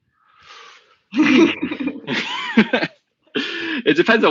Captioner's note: both laugh